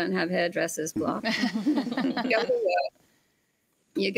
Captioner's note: group laugh